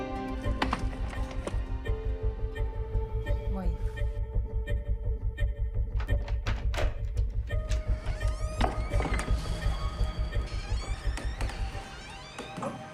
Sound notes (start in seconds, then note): 0.0 morose music continues; 0.2 unsettling music playing; 1.3 door knob clicking; 5.8 door opens; 7.5 door creaking